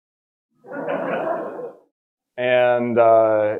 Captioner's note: all laughing